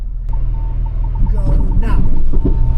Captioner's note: truck beeping